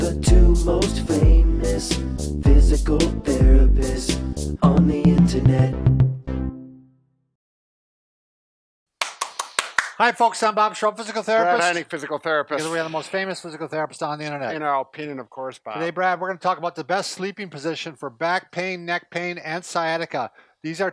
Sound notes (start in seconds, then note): 9.0 clapping